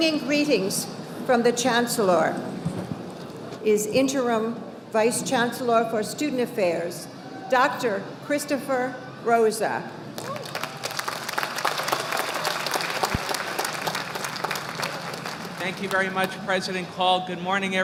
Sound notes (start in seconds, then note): 10.1 audience applauding